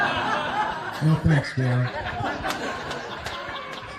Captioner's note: laughter